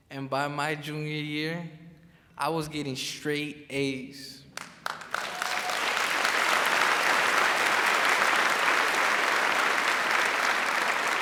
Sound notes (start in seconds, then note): 4.5 crowd claps